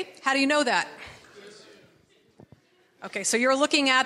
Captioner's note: audience members all talking at once